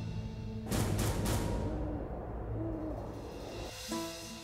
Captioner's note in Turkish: Baykuş sesi